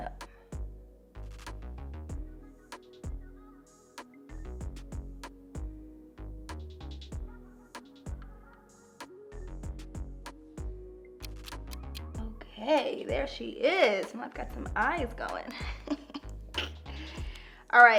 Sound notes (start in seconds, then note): 0.2 gentle music; 11.6 clock ticks; 15.5 laughs